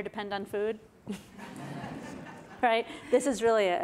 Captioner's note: audience laughs